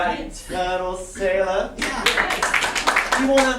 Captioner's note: applause